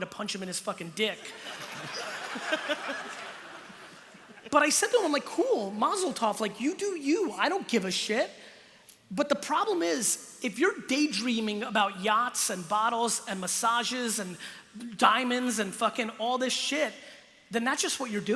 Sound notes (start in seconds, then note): 1.2 laughter